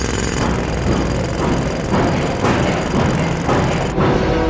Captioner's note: rapid hammering of jackhammer; pounding of pile driver